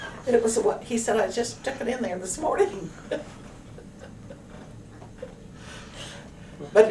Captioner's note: laughter